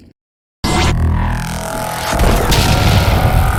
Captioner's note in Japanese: レーザーガン効果音; 爆発